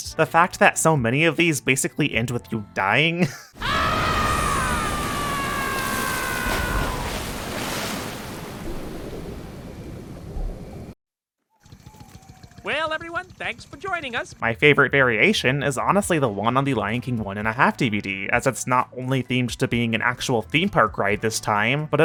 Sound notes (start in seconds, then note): 7.7 splash